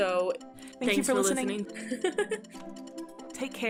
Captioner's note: haha!